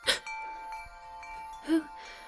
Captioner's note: gasps; wind-chimes ringing in the background